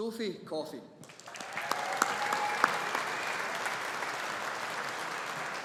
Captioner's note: audience applauding